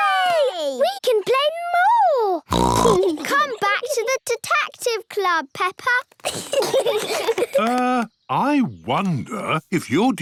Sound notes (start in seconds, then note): 2.5 snorts; 6.3 giggling